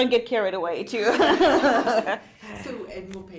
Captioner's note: all laughing